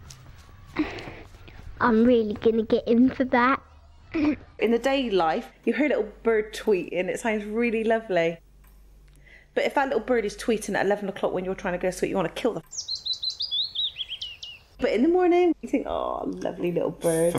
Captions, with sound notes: I'm really gonna get him for that. In the daylight, you hear a little bird tweeting, it sounds really lovely. But if that little bird is tweeting at 11 o'clock when you're trying to go to sleep you wanna kill the (birds tweeting) But in the morning, you think, aww, lovely little bird.